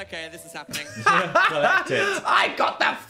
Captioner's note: both laughing